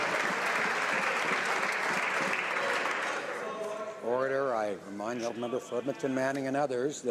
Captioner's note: some Applause